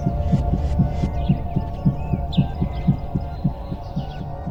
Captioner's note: heart beats